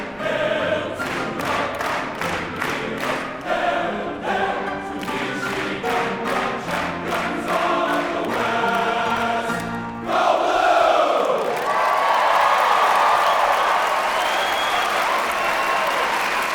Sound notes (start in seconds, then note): 10.4 audience applauding and cheering